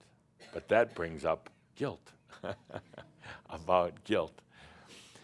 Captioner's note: chuckles